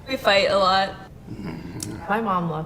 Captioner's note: interviewee groans